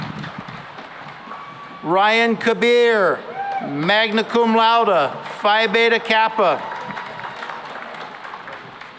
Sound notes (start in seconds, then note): 3.1 cheering and applause